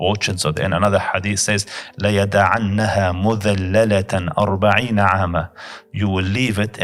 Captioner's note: Arabic